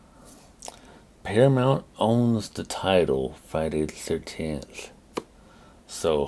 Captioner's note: clap